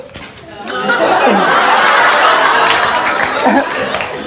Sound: audience laughs

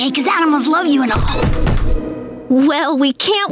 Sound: knocking

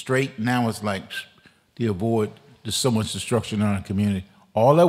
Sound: whistles

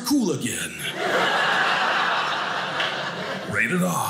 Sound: audience laughing

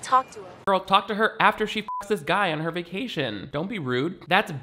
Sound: beeps

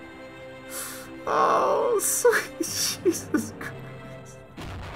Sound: laughing

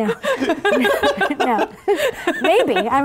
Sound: laughing

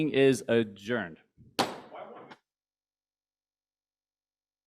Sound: gavel slams

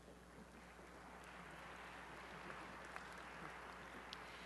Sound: applause

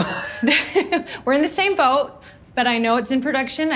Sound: chuckles

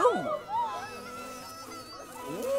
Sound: buzzing

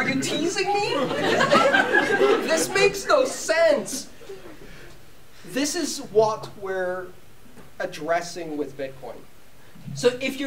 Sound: laughter

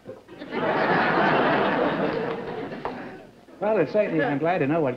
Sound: laughter

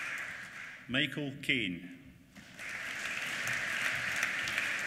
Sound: applause

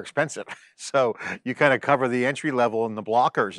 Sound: chuckles

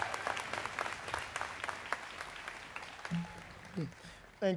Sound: students clapping

